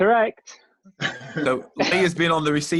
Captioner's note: laughing